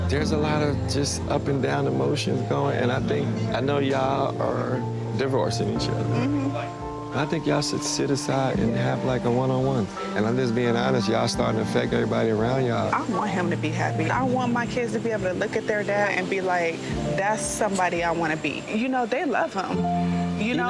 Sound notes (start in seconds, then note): 6.1 Bambi mmhmms; 6.3 chill smooth music; 18.1 chill smooth music